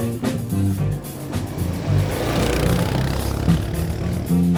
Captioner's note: motor sound